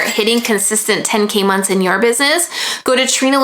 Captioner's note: bell chiming